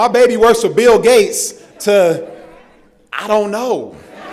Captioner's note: laughter